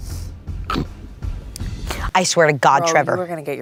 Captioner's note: snores